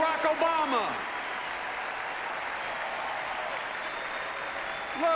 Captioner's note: applause